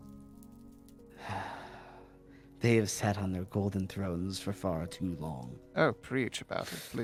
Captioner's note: sigh